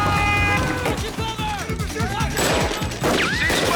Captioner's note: men shouting